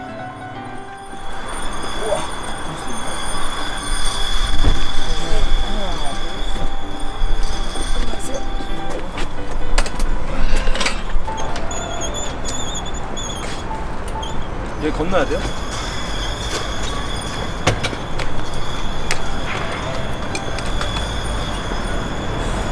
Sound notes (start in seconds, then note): 11.2 squeak; 12.3 squeeeeak